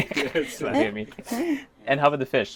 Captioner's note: chuckles